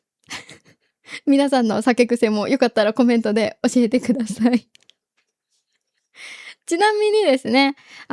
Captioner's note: laughs